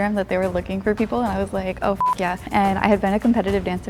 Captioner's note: beep